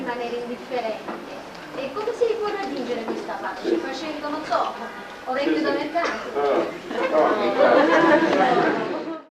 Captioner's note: italian